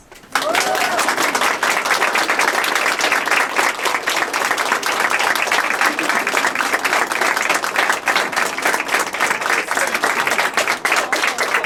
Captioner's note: applause